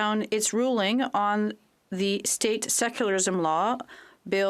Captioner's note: speaking French